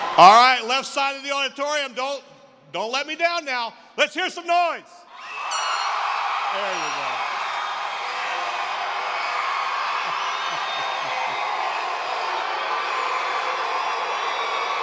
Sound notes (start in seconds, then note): 8.1 screaming; 11.7 cheering